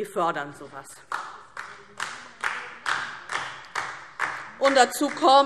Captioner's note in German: Beifall DIE LINKE